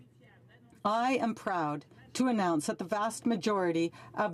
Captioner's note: speaking French